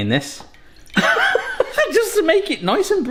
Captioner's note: laughs